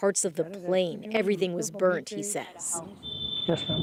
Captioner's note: speaking alternate language